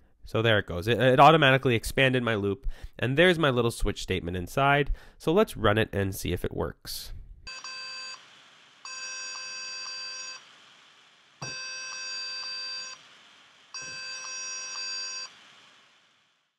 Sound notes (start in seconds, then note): 7.1 series of beeping sounds